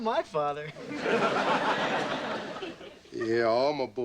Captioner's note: audience laughing